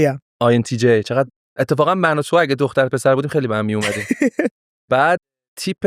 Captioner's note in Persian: خنده